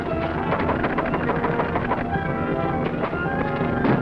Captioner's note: tense music; knocking on door; men rustling; tense music